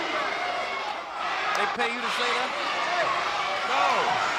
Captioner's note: presenter speaking faintly off mic